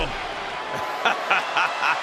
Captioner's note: laugh